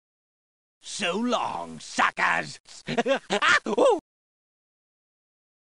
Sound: gleeful cackling

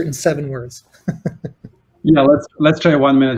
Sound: chuckles

